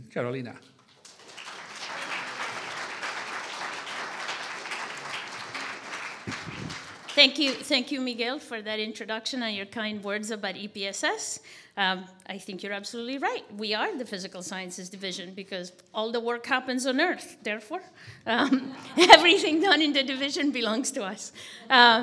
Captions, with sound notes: Carolina. (audience applauding) - Thank you, Miguel, for that introduction and your kind words about EPSS. I think you're absolutely right. We are the physical sciences division because all the work happens on Earth, therefore everything done in the division belongs to us.